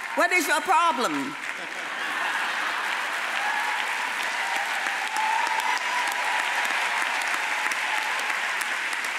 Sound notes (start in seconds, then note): 1.4 audience laughs; 3.5 audience applauds